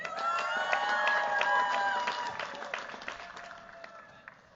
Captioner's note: cheers, applause